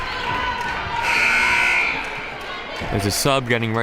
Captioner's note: buzzer blares